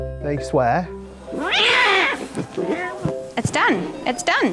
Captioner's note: gentle jaunty music; cat screeching